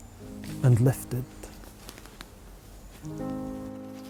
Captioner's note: footsteps crunching; serene piano music